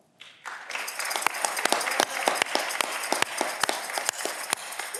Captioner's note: audience clapping